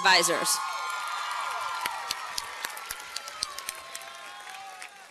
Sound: cheers and applause

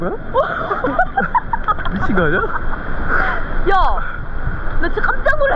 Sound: laughing

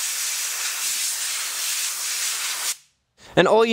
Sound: spraying

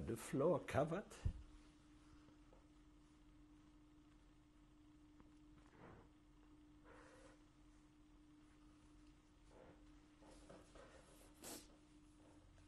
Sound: hebrew

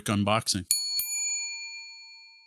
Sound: bell dings

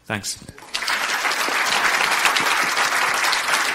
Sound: applauding loudly

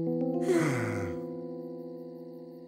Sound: sighs

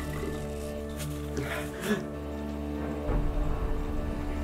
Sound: Derek gasping

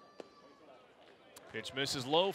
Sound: ball hitting glove

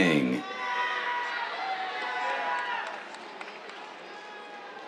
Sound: cheers

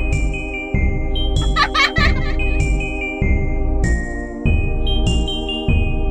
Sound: child Laugh

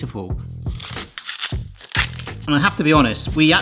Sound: onion crunching

